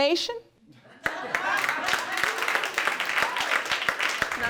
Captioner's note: audience applauding